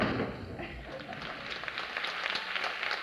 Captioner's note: applause